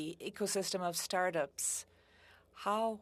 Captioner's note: speaking French